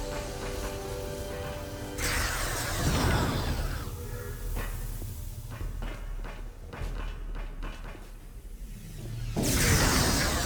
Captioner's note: explosion